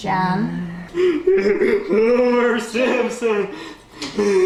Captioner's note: laughing